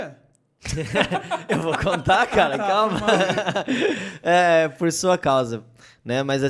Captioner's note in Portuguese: Todos rindo